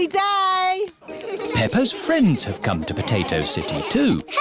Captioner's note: laughter